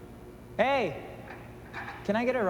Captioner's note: light buzzing